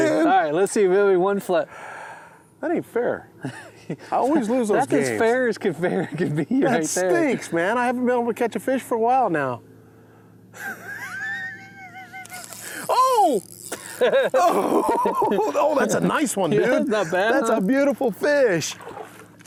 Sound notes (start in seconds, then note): 10.6 laughs; 13.7 both laugh